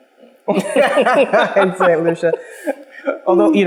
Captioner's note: laughing